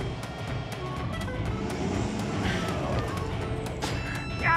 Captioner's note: tires spinning